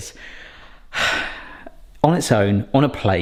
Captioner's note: sighs